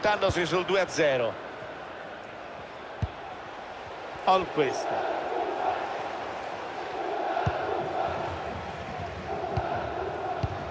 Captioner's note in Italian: Applauso